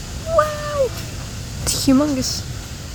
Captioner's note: squeals